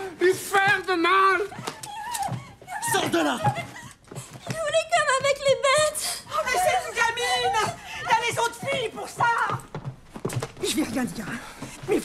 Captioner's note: laughs